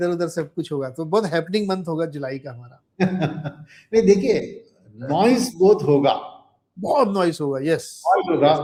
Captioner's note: laughter